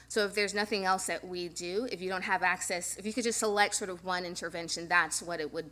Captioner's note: none